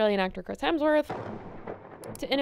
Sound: thunder clap

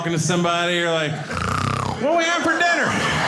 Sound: mimicking snoring

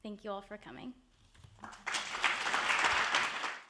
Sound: attendees applauding

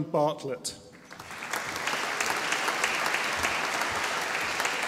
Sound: audience applauding

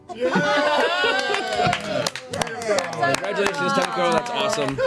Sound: all cheer and laugh

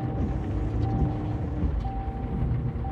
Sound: engine revving

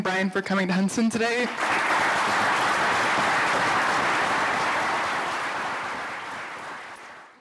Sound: applause

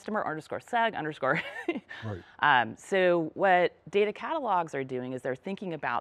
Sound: laugh

